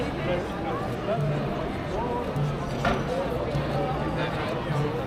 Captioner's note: people chattering